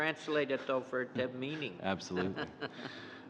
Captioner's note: laughter